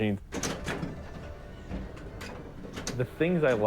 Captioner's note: pinball noises